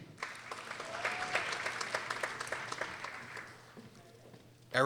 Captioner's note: people applauding